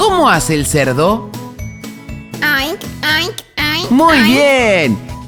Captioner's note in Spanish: Sonido de cerdo